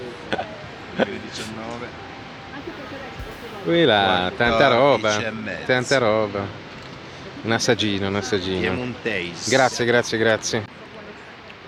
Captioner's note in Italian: schiarire la voce